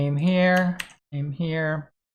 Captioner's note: keyboard clanks